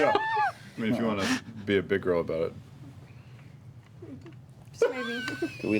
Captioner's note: laughs; laughs